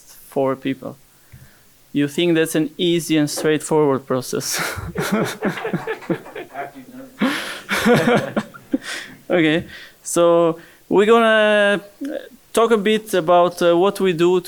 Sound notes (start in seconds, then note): 4.4 laughing